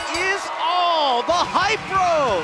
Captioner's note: bell